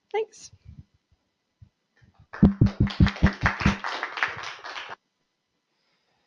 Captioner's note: applause